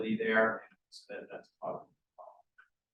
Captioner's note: sound distorted